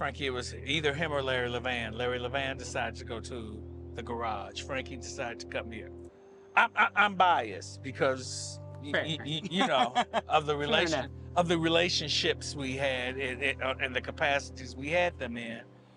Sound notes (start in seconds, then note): 8.9 laughs